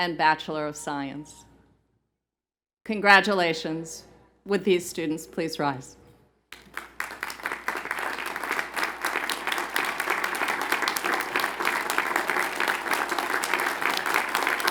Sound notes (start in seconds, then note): 11.2 applause